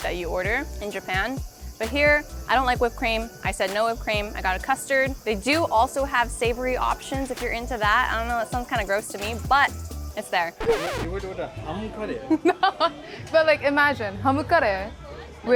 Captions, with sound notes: that you order in Japan. But here, I don't like whipped cream. I said no whipped cream. I got a custard. They do also have savory options, if you're into that. I don't know, that sounds kind of gross to me, but it's there. (record scratching) (person speaking foreign language) - No, but like, imagine (speaking foreign language)